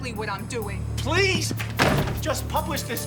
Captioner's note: door thuds